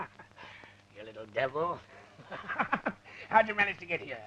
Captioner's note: laughs